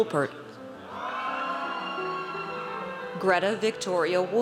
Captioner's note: audience cheers